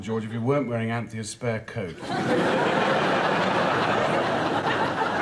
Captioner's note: audience laughs